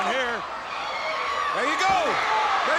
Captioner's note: crowd cheering